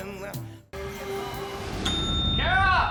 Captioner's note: bell ringing